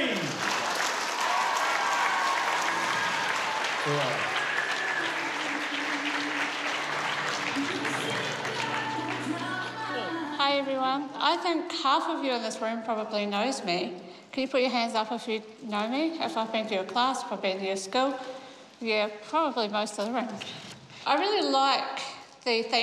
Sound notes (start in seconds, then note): 4.7 cheers and applause